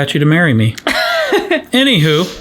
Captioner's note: laughs